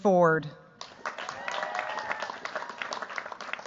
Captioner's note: cheers, applause